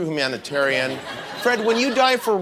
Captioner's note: audience laughs